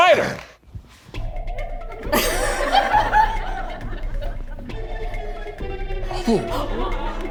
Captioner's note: dramatic spy music; audience laughs